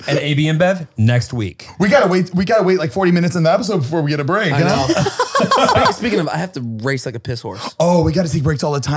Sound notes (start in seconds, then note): 4.6 laughs